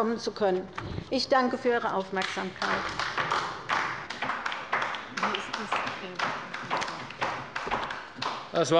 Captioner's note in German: Beifall bei der LINKEN